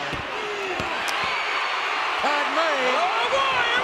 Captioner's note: audience cheering